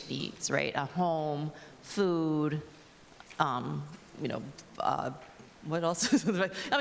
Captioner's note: laughs